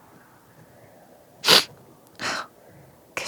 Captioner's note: sniffling sound